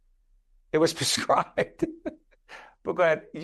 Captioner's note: laughing